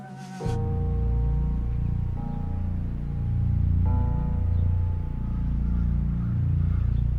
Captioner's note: birds chirp